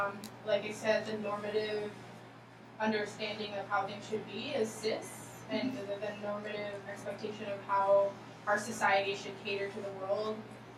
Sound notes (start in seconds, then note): none